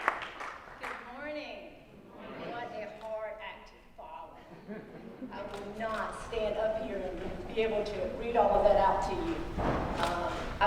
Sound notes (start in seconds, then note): 0.0 applause; 4.4 laugh